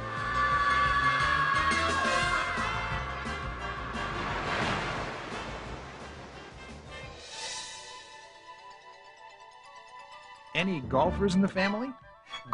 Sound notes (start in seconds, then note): 0.2 girl screaming; 4.5 water splashing